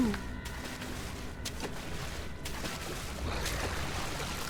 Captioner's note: splashing; underwater growl